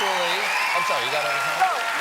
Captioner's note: cheers and applause